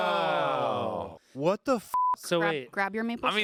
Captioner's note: beep